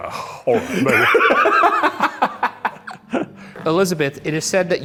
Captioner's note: Ryan laughs